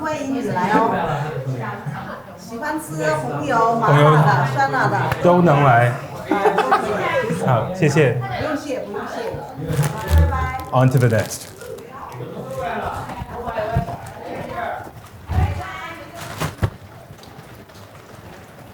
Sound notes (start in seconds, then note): 6.1 laughs; 8.0 both speaking foreign language